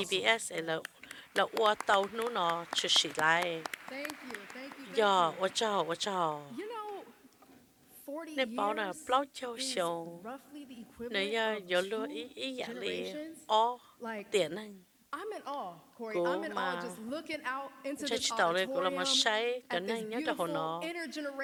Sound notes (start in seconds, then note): 2.5 applause